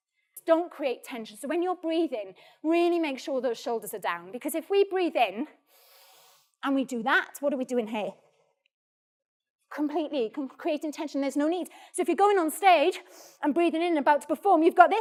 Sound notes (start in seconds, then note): 5.6 breathes